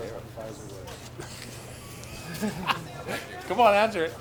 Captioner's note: laughs